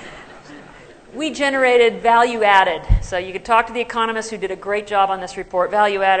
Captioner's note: laughter